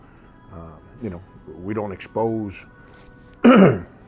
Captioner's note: clears throat